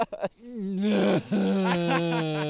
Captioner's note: Keith groaning